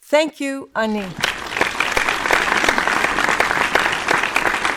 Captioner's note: audience applauds